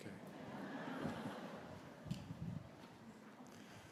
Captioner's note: graduates cheering